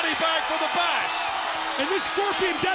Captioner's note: bell rings